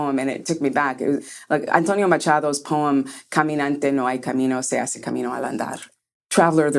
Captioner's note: speaking spanish